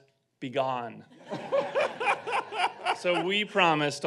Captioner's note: audience laughing